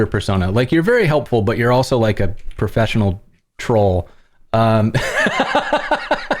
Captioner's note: laughter